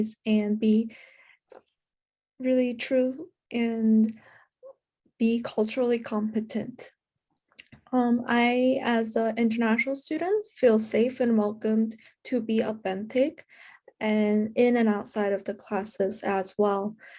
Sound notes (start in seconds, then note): none